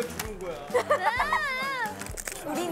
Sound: laughing

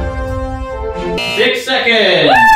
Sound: circus-like music continues; buzzer beeps

